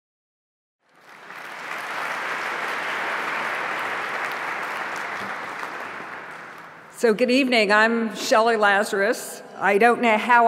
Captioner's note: applause